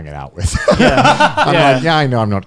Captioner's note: all laughing